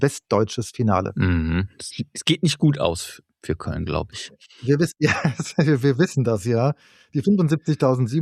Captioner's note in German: gelächter